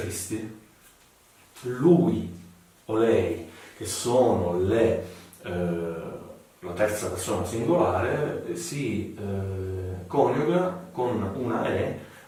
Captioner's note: accented